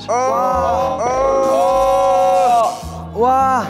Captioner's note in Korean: 아아아악